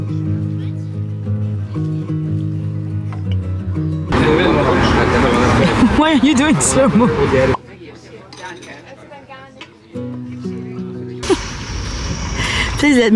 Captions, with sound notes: *laughs* Why are you doing slow-mo? Please let me